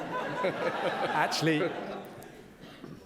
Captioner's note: audience laughs